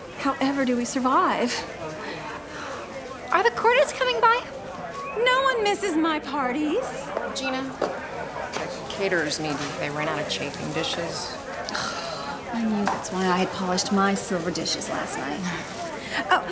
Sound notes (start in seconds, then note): 11.9 scoffs